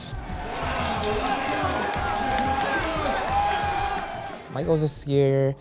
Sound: cheering

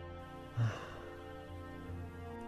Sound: sigh

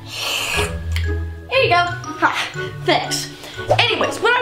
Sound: slurping

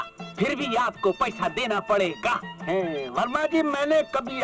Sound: none

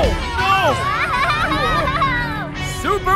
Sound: screaming

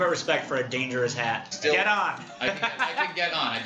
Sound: laughs

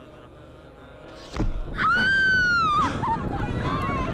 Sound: woman screaming

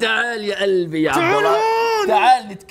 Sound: groans

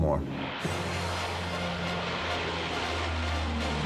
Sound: plane engine roaring; urgent music

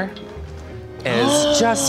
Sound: gasps

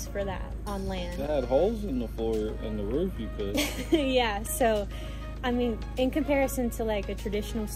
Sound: laughter

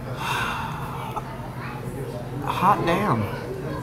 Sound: sighs

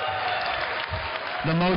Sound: applause

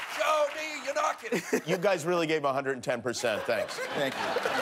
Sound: applause

